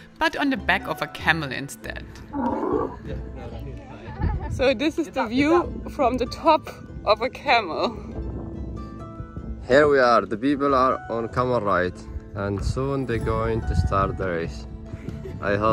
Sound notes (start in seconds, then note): 2.2 camel grunting